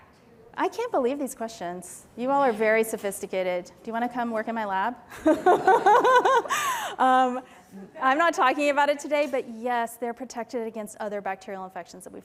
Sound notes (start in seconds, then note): 5.1 laughter